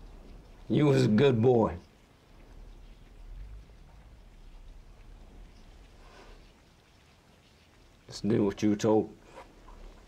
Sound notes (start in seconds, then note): none